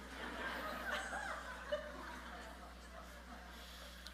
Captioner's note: audience laughing